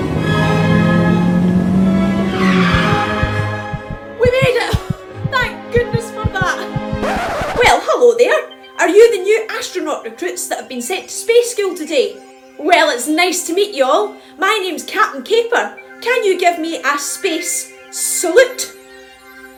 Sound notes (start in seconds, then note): 2.5 car breaks screeching; 5.7 record scratch